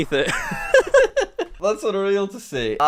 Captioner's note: laughs